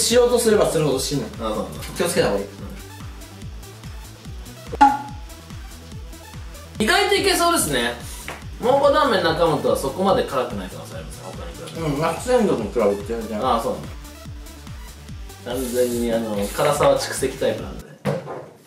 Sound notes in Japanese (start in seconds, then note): 4.7 ポンッ